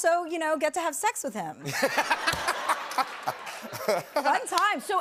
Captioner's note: laughter